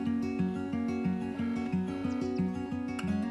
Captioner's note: light music; phone rings